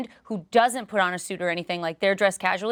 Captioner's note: none